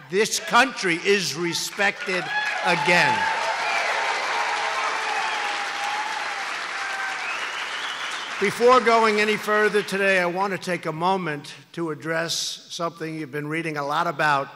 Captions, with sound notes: This country is respected again. (Applause) Before going any further today, I want to take a moment to address something you've been reading a lot about: